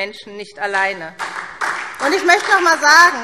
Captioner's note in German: Beifall SPD